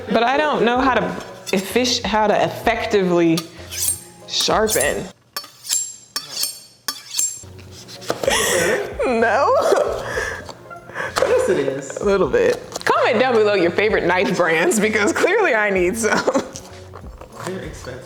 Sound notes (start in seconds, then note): 5.3 knife scraping against sharpener; 8.2 laughs; 8.2 laughing; 15.8 laughs